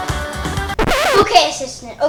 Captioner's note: record scratches